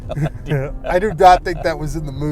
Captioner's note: laughter